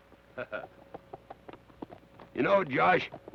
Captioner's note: Carney chuckles